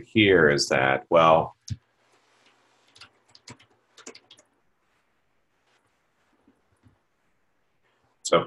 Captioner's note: typing Sounds